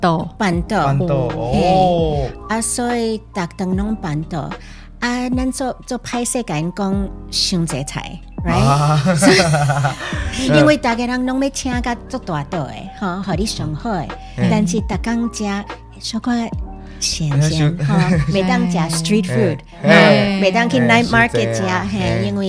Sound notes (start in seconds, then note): 0.0 Taiwanese; 8.5 laughing; 10.6 Taiwanese